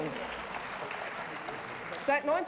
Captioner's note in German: Beifall